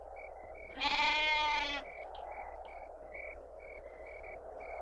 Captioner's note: goat bleating